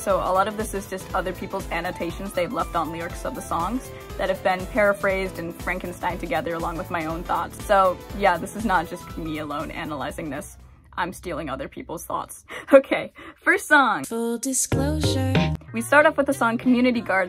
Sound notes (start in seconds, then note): 12.8 laughing